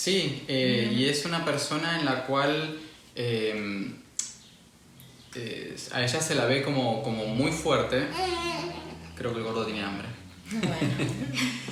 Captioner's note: laughs